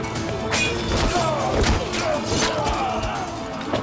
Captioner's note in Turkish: Kılıç sesleri